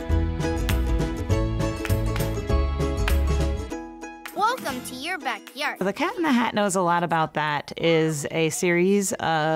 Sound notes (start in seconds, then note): 0.0 upbeat music playing; 4.2 child's voice